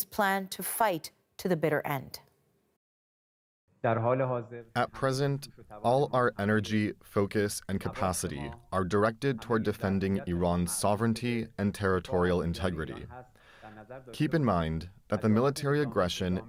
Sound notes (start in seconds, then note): 6.4 speaking Alternate Language